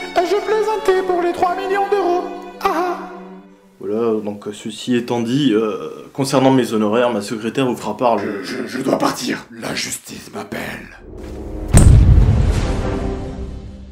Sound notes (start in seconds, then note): 8.1 deep voice; 11.6 explosion